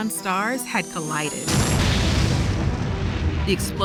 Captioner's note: explosion